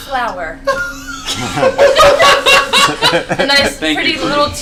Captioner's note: all laugh